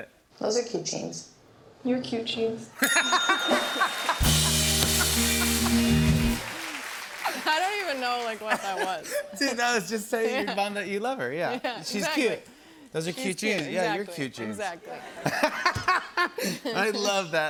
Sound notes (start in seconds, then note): 2.8 ding!; 4.9 laughs; 14.9 laughs